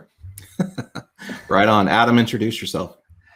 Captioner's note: laughing warmly